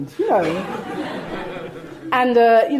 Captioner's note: audience laughing